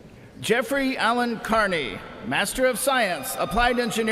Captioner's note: cheers and applause